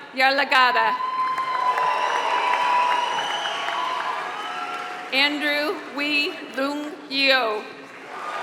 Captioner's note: applause; applause